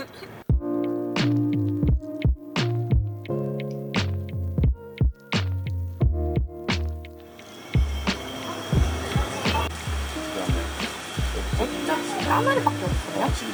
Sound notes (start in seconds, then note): 0.9 soft music; 7.7 speaking in foreign language